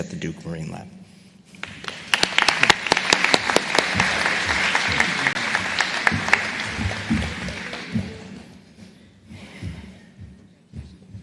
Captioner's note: applause